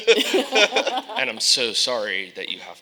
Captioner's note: panelists laughing